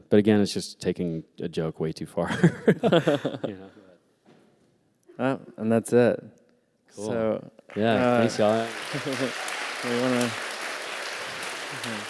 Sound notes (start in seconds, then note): 2.2 laughter; 7.6 applause